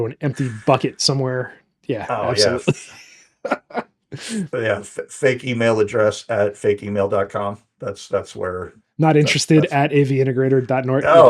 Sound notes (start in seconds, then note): 3.4 laughing